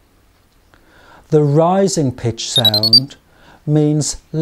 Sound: 3 noumic beeps

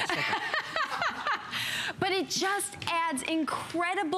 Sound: laughter

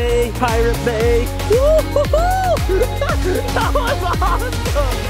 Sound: laughs

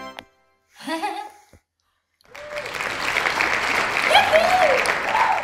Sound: applause

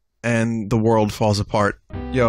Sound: none

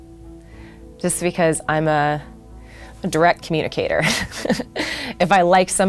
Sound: chuckles

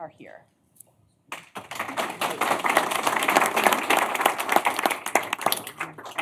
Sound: applause

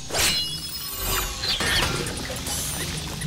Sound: clanking

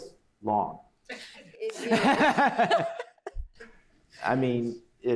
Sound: laughter

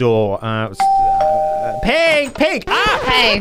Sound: doorbell ringing

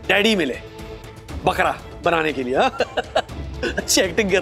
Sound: laughs

